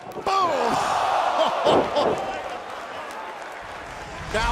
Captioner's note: laughs